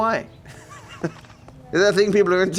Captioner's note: laughs